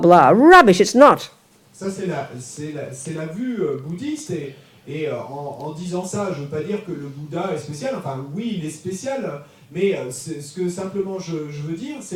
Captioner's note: audience member speaks in French